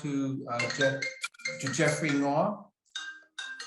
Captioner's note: phone ringing